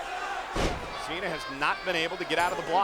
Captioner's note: body thudding; blows thudding